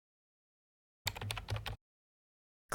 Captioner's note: typing